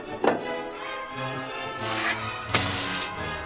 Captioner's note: munching; sizzles